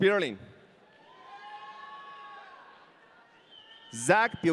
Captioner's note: audience cheering